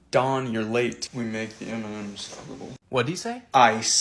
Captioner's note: mutters